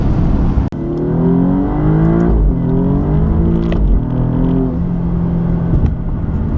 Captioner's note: more acceleration noises